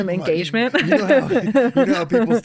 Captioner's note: laughing